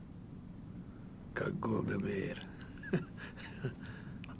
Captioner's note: laughing